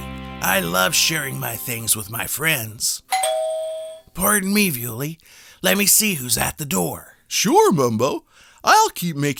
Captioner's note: door bell